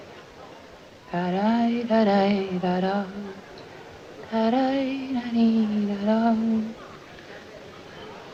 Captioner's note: humming